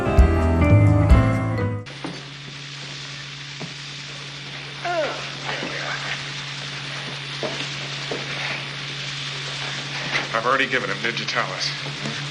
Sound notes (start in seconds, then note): 4.8 groans; 12.1 sound of helicopter lifting off